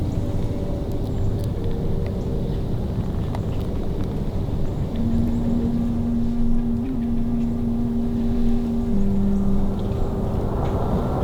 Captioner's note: background road noise, soft music